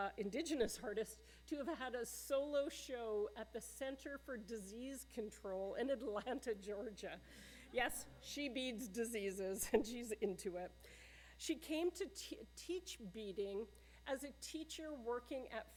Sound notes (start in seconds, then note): 7.2 laughter